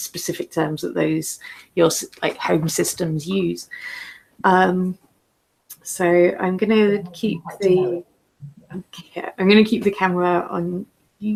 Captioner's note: laughs